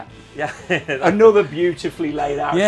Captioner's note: laughs